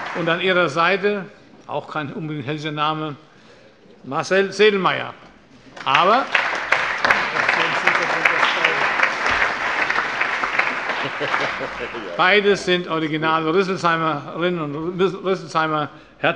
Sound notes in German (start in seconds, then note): 5.7 Allgemeiner Beifall